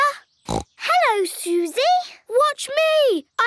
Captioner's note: snorts